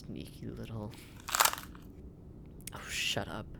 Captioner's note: crushes microphone